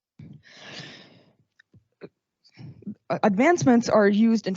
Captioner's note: inhales deeply